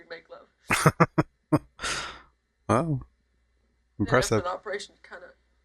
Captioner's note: chuckling